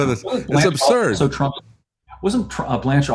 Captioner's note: laughs